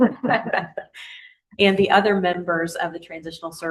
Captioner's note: laughter